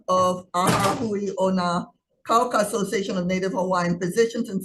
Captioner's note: door slamming